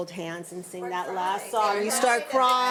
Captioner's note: speaks faintly